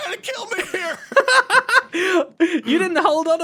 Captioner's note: laughs